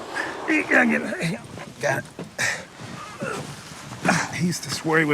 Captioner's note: grunting